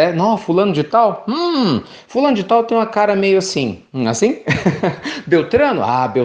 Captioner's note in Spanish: risas